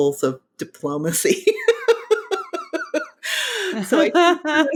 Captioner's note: both laughing